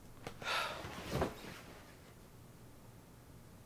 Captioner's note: sighs